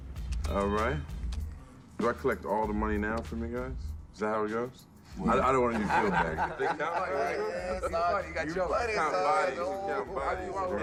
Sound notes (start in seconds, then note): 5.2 laughter